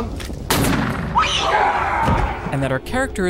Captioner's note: Elizabeth screams